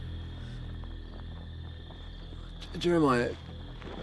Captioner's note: footsteps